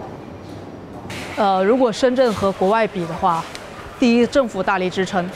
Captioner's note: speaking in Chinese